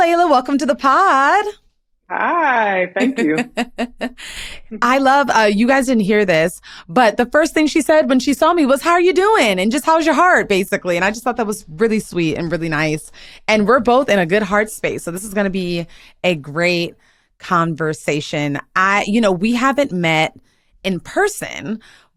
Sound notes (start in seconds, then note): 2.2 laughs